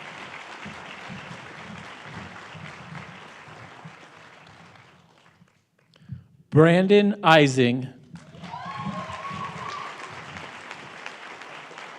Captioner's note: applause